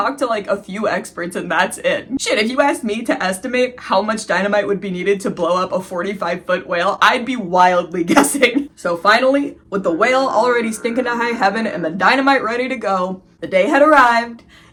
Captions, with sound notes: talked to like a few experts & that's it. Sh-t if you asked me to estimate how much dynamite would be needed to blow up a 45 ft whale, I'd be wildly guessing! So finally, (fog horn) with the whale already stinking to high heaven & the dynamite ready to go, the day had arrived. It was exploding time.